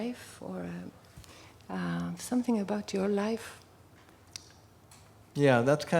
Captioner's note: none